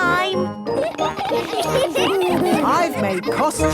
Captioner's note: laughter